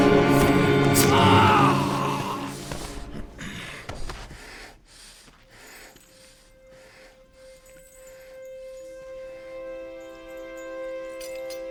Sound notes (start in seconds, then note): 0.9 man groaning; 8.0 suspenseful music